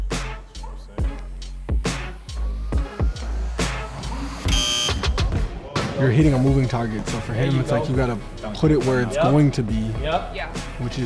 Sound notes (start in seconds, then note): 4.4 buzzer buzzing